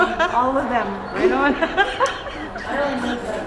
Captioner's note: laughing